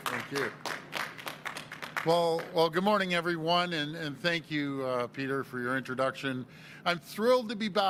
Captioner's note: applause